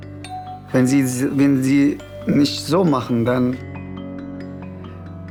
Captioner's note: in German